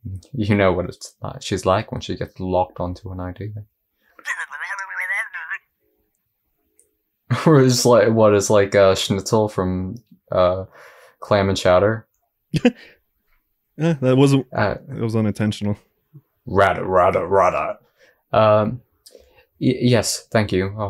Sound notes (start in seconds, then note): 4.1 mumbles with a Highpass filter on; 12.5 chuckles